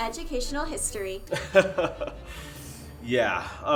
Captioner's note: Blaine laughs